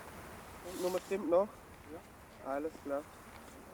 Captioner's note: speaking German